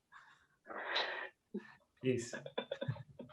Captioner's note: laughing